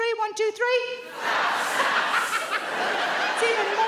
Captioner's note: Sarah laughs